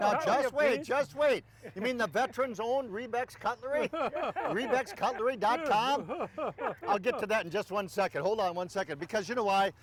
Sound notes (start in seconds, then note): 3.7 laughing